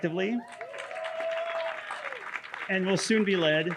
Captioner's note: audience cheering